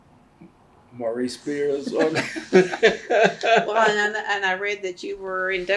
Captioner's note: laughs